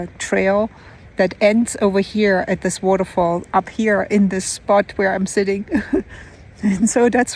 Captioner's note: laughs